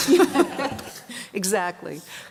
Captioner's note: laughter